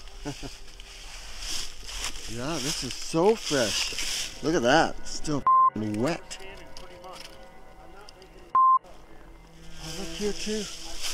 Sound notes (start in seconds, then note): 5.4 beep; 8.5 beep